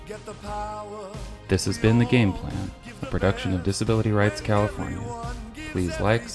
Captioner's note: voiceover